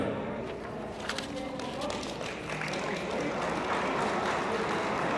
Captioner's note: attendees applauding